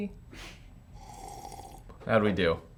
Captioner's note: slurping